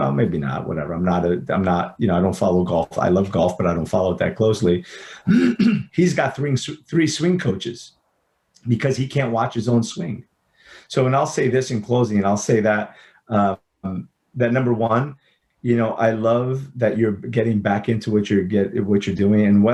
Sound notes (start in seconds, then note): 5.2 clears throat